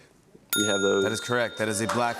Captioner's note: bell dings